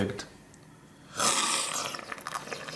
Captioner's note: slurp